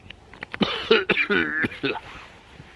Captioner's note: coughs